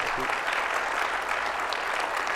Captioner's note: audience applauding